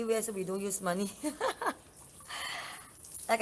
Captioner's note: laugh